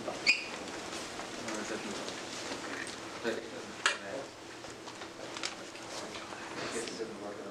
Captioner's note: indistinct conversation